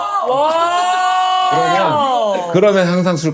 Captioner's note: murmuring